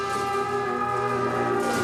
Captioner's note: none